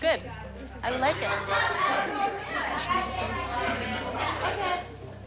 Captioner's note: kids chattering loudly